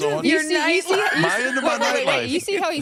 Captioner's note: laughs